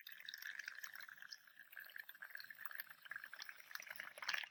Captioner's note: water gurgling